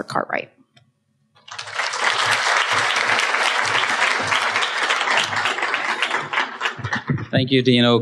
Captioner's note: applause